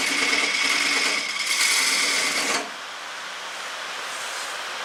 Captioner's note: noise of woodturning lathe and woodturning